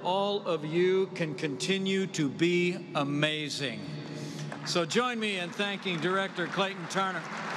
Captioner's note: applause